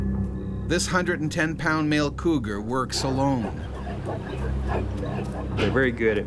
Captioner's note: voiceover